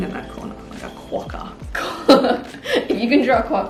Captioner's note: laughs